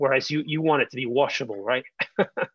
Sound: chuckling

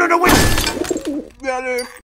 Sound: painfully

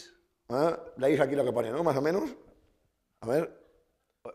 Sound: speaking spanish

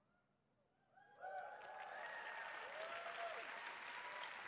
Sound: applause

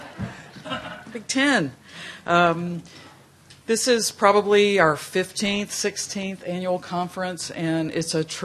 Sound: laughter

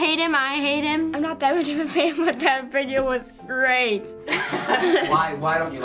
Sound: laughing

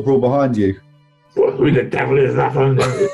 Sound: laughing; gruffly

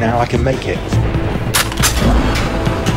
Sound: gun cocking sound

